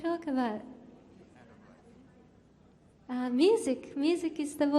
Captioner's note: chats quietly